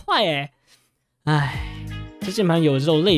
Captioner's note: sigh